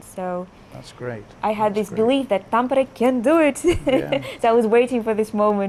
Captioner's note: laughs